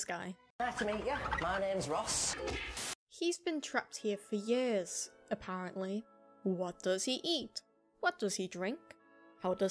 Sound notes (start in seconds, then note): 2.0 thwack; 2.6 static